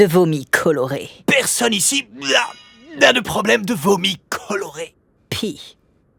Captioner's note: pukes